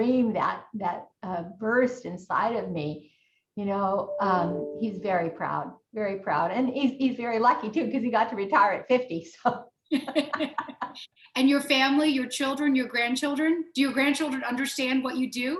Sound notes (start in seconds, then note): 9.9 both laughing